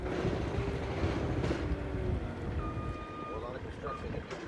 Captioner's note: engine revving